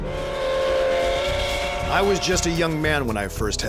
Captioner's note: train whistle blows